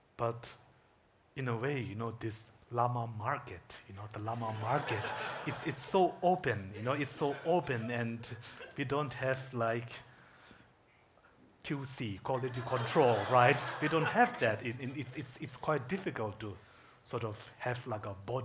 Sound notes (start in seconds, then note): 4.3 audience laughing